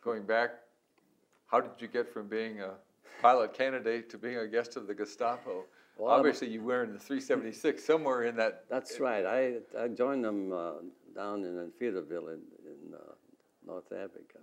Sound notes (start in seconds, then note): 6.1 laughs